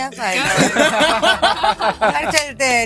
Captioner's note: laughter